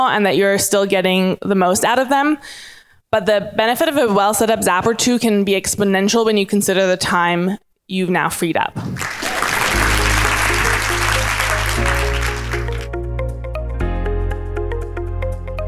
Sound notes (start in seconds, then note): 8.9 audience applauding; 11.8 soft upbeat music